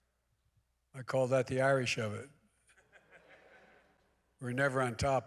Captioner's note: laughter